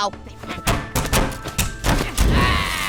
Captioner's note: knocking and banging